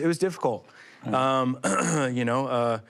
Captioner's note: clears throat